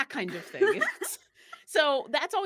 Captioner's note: laughing